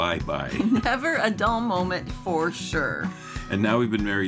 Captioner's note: chuckling